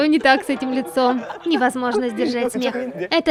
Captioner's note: unable to hold the laughter